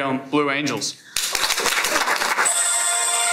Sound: applause; upbeat music

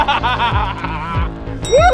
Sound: laughter

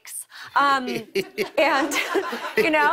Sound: laughter

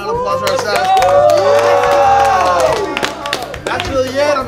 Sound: clapping

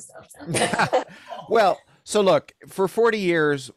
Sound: laughter

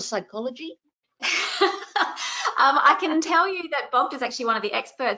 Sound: chuckles

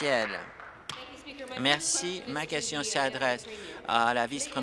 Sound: applause

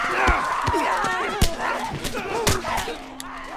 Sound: punches land; distant shrieks grow fainter

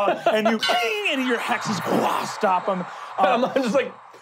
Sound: metallic clinking

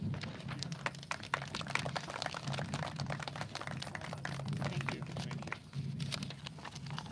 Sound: clapping

